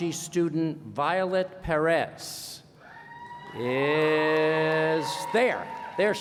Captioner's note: cheering